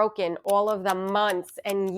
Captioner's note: clock ticking